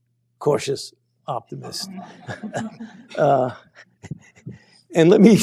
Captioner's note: laughter